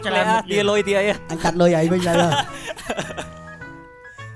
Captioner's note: laughs